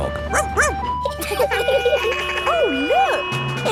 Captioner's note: sirens sounding; barks; laughing